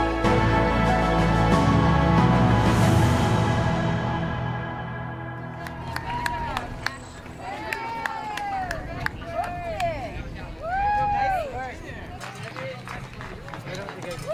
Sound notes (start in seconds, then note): 7.5 onlookers clap and cheer